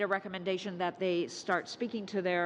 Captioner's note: speaking French